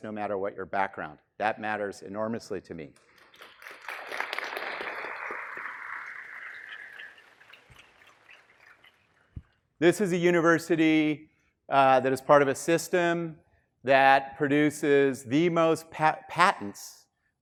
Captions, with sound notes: no matter what your background. That matters enormously to me. (students clapping) This is a university that is part of a system that produces the most patents